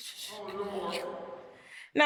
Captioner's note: audience groans